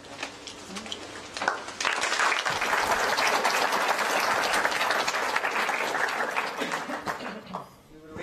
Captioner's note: applause